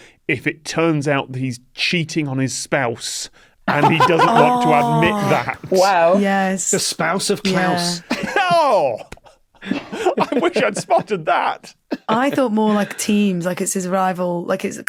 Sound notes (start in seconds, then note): 9.6 dry laughs; 9.6 giggles